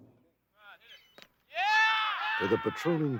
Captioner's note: inmates cheering